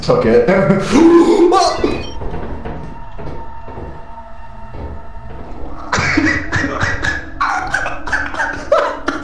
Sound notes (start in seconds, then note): 2.1 laughter